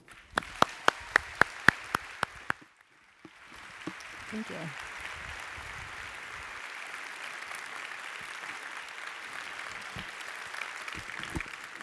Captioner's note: applause